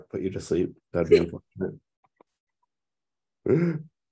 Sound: laughs

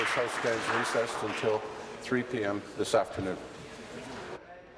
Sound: applause

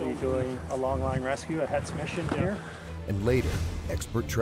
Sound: voiceover

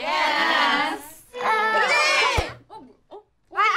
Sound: all exclaim

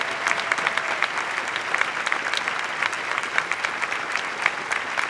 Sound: applause

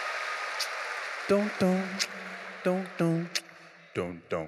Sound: audience cheering; beatboxing

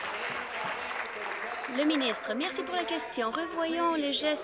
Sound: applause

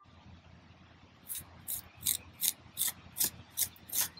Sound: trowel scraping

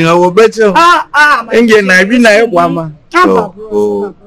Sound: laughs

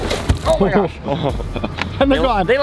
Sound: laughs

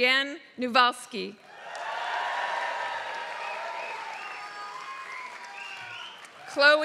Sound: applause

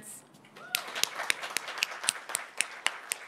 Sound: applause

